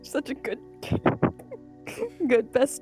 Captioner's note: laughing